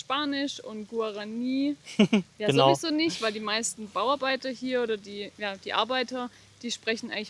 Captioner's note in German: gelächter